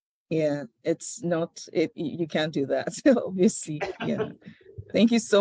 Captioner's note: laughs